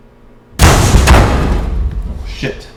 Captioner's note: microwave thuds